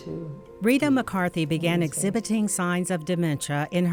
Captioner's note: voiceover